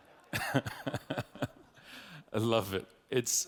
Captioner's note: audience laughing; laughs